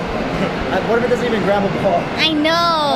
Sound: laughs

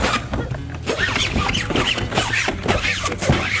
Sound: squeaking

